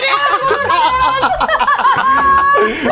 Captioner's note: laughing